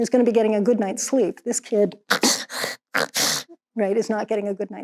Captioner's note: imitates snoring